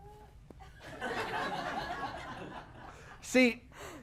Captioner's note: laughter